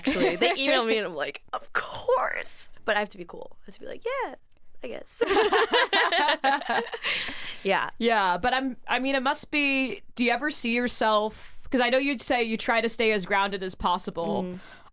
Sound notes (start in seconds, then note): 5.2 both laughing